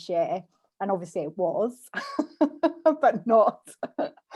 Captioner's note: laughs